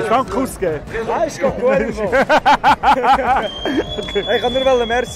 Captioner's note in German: Sie lachen